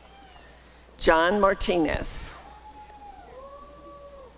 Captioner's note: applause and cheering